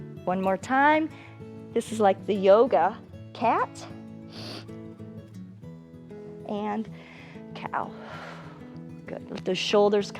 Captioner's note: exhales